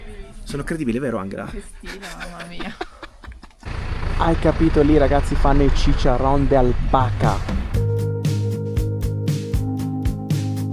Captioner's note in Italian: risate